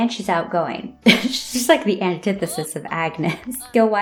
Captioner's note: laugh